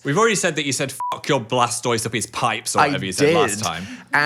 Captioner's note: beep